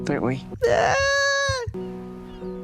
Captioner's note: inexplicable squeaky cry